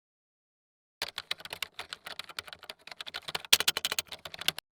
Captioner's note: keyboard typing